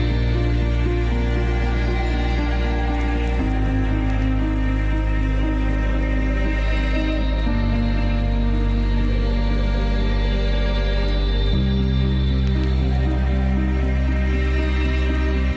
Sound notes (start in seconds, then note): 3.6 stirring music continues; 3.6 water lapping continues